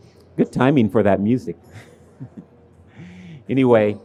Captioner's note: laughs